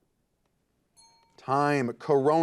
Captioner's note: timer beeping